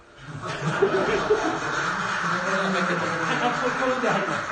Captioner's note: applause